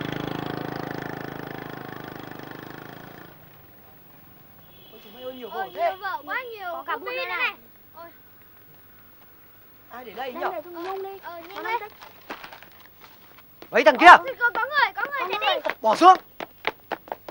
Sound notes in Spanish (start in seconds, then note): 4.6 chicos hablando